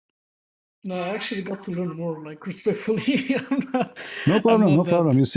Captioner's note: laughter